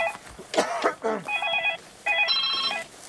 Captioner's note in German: Husten, Handyklingeln